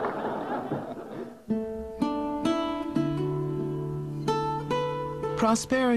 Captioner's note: laughter